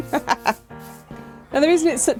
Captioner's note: laughing